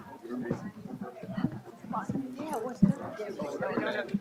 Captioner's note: crowd chattering